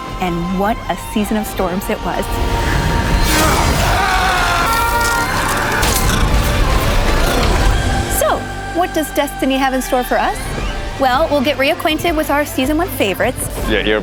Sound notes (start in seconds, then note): 2.7 grunting, shouting